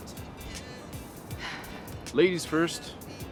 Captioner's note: Fern sighs